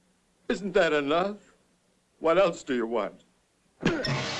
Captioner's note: sobbing; blow